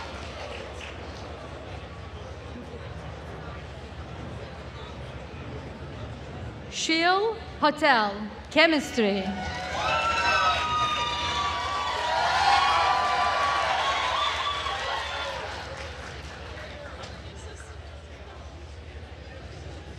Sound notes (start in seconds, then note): 0.0 attendees cheering and applauding; 9.3 attendees cheering and applauding